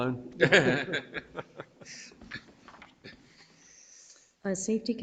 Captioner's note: board members laugh